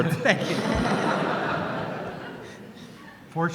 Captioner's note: laughter; voiceover